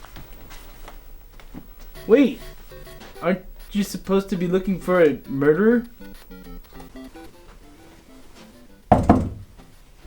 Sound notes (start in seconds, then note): 8.9 knock